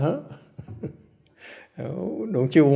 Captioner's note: laughter